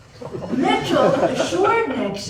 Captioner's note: laughter